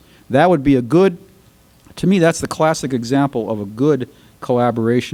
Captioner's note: none